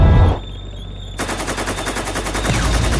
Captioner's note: tank gun blasting; explosions booming